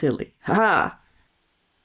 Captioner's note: triumphant laugh